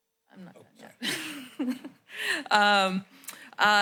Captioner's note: laughs